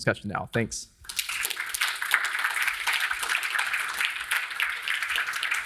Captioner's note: audience applauding